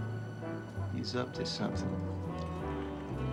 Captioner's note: tea trickling